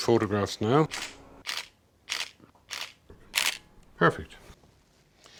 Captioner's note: camera snaps